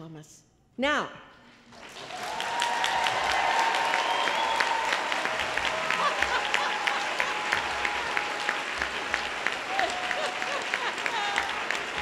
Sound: applause

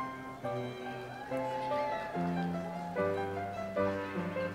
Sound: audience applauds

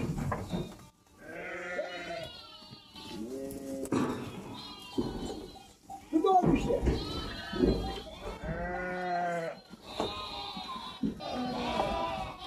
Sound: lamb sheep bleating sounds meeee meee meee

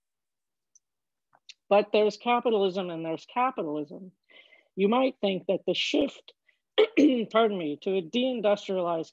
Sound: cough

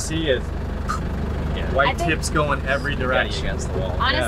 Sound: poof

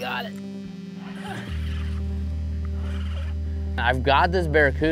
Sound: rod reeling

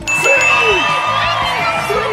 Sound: parents cheering; buzzer ringing

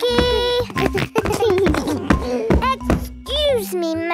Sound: giggles

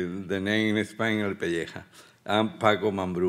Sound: speaking Spanish

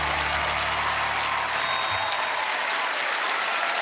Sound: typewriter clacking; tings

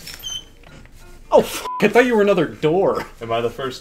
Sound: beep

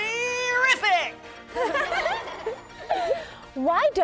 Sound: everyone laughs

